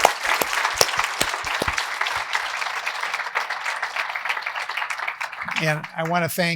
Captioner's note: applause